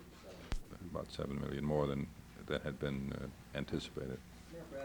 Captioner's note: Bradley, soto voice